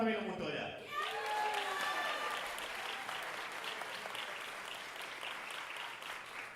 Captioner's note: audience cheering and applauding